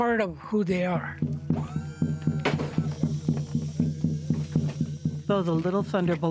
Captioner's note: native drum music; machine whirling